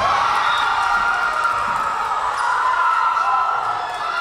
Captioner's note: whistle blowing